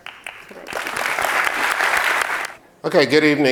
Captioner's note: audience applauds